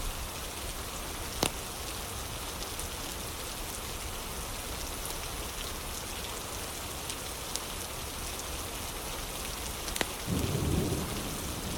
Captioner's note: fire crackling